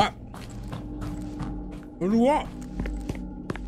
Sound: soft footsteps

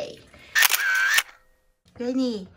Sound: camera clicks

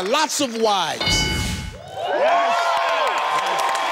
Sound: dings; cheering

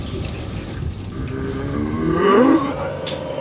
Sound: groaning

